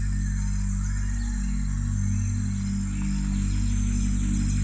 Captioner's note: gentle music; insects chirping